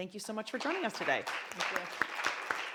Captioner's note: applause